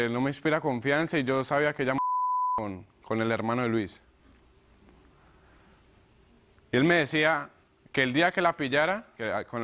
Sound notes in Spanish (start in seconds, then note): 2.0 Bip